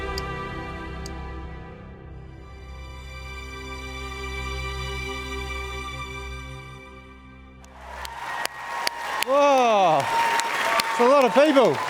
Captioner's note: applause